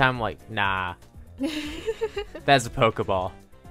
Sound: laughs

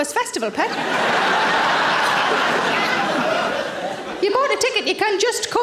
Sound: audience laughing

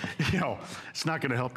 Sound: laughter

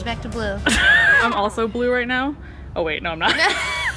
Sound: laughs; laughs

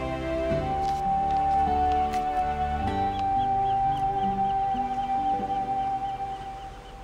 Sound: paper crinkles; seagull caws

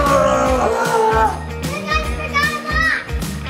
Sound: straining

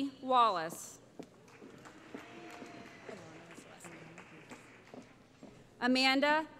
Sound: applause

